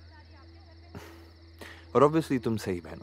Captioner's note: Sighs